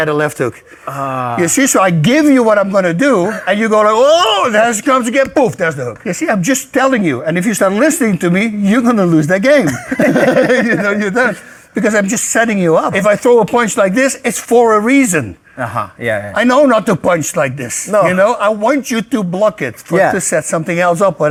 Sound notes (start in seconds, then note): 9.6 both laughing